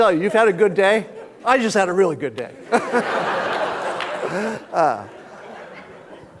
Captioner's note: all laughing